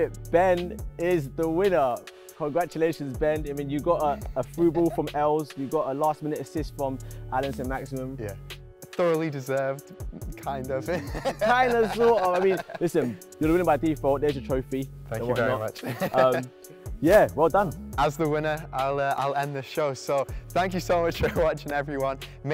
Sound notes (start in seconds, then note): 10.9 chuckle